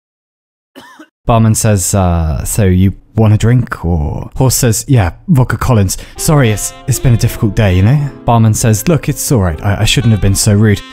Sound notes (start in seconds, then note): 0.7 cough